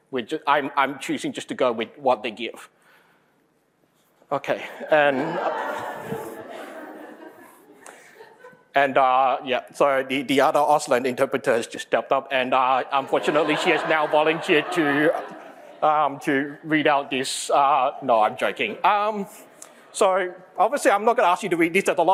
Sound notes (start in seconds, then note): 4.8 crowd laughs